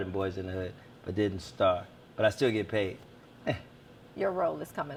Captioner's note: laughs